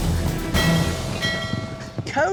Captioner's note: ringing bells